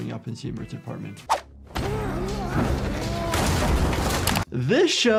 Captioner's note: people grunting